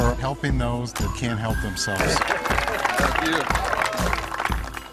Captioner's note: applause